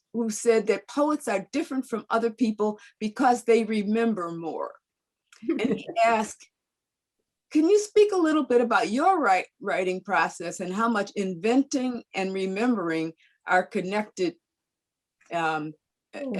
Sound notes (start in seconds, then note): 5.4 laughing